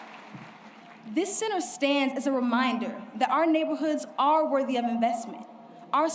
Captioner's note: applause